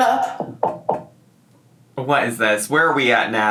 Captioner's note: knocking